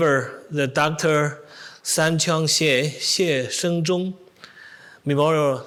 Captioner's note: speaks in foreign language